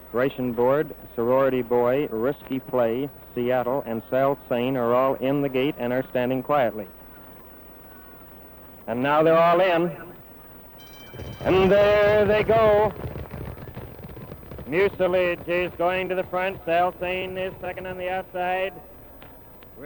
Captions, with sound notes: Ration Board, Sorority Boy, Risky Play, Seattle, and Sail Sain are all in the gate and are standing quietly. And now they're all in. And there they go! (hooves clopping) Mucilidge is going to the front, Sail Sain is second on the outside.